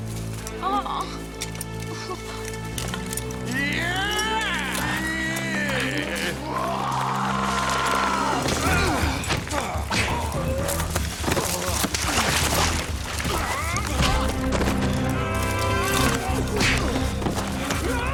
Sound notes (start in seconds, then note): 0.7 yelling; 7.9 dramatic music; 7.9 scuffling